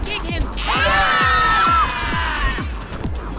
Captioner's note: screaming